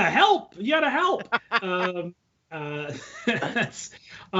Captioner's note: laughing